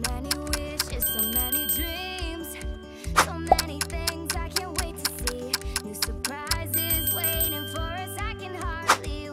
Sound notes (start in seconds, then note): 0.8 bell ringing; 3.4 clock ticking; 6.4 bell ringing